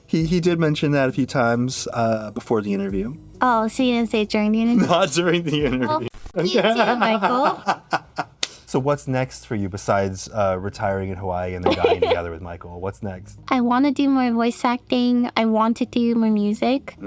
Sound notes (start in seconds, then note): 6.4 laughs